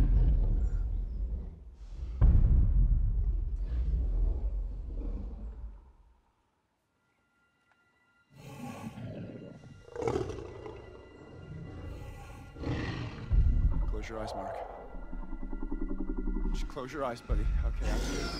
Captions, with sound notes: (dinosaur growls) Close your eyes, Mark, close your eyes buddy, okay,